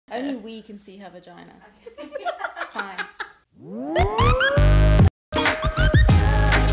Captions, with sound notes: - Only we can see her vagina. (laughter) It's fine. (upbeat music)